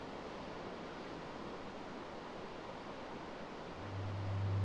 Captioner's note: river water flowing